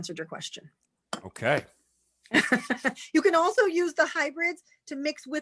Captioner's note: chuckles